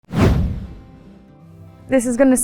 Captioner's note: whoosh Sound